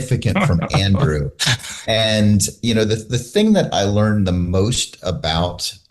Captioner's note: laughter